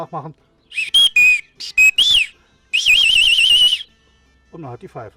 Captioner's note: whistle sound